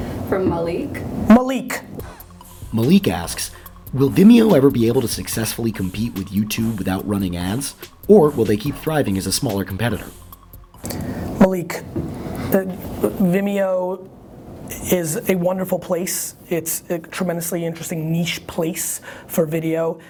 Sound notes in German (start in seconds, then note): 2.5 Voice-over